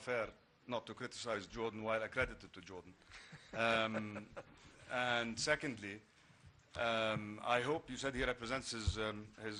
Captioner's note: laughter